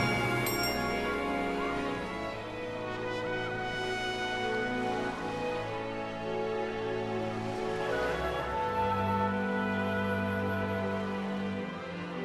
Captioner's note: water lapping